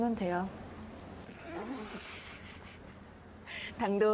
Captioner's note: laughing